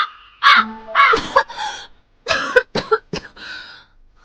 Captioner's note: coughs